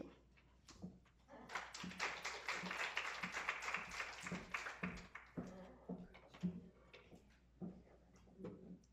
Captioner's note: applause